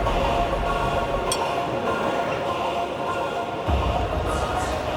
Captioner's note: crowd chanting